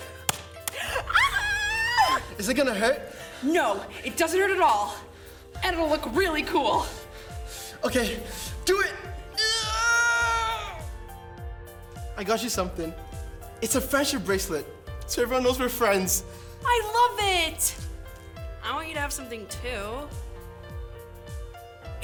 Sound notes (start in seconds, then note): 0.0 handshake slaps; 0.9 excited squeals; 9.2 nervous squeal